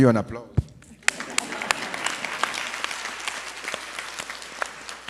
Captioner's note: audience applauds